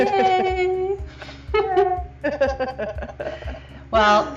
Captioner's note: laughing